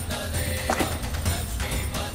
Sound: thudding

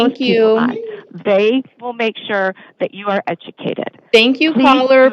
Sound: chatter continues

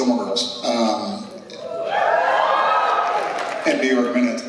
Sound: cheers

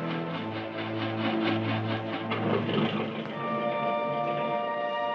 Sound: engine sputtering

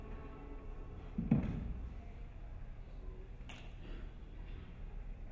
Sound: dancer thudding

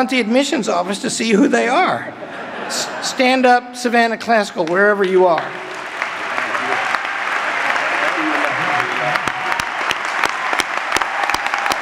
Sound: applause

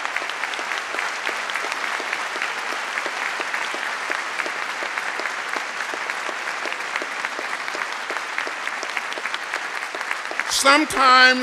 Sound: applause

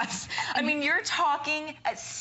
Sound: laughter

